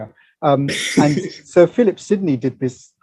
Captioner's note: laughs